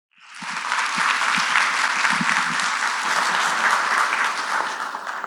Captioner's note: applause